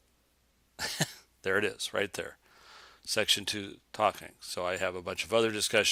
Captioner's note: chuckles